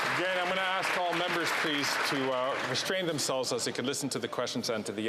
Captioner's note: some Applause